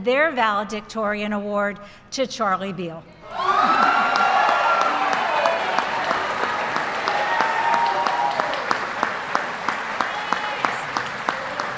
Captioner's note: applause